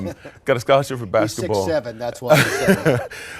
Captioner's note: laughs